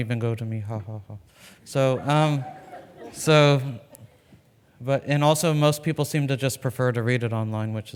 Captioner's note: laughs